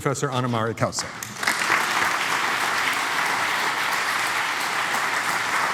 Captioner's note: applause